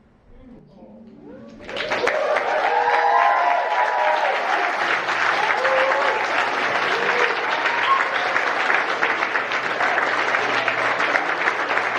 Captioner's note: audience cheers and applauses